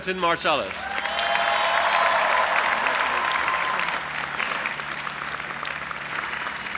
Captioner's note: audience applauding and cheering